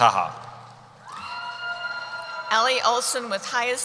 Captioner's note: cheering